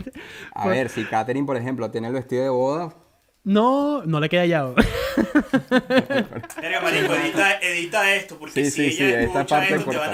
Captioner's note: laughter